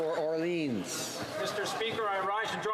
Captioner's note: some Applause